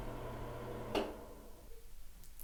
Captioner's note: exhaust Fan Stopping; click